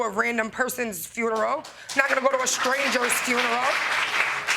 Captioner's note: audience clapping